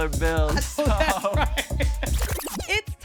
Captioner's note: laughs